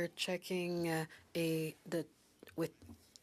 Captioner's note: speaking FRENCH